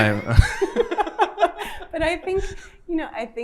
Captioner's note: both laugh